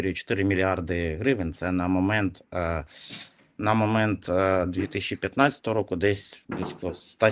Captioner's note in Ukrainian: сопіння